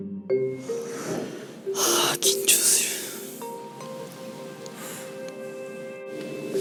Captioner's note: sigh